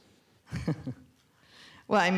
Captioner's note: chuckles